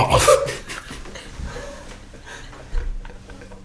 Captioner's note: laughing